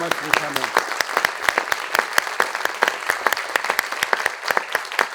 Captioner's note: audience clapping